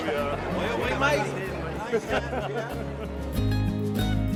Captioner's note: laughs